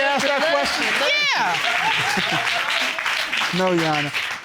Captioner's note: audience cheering